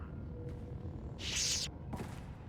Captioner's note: gunshots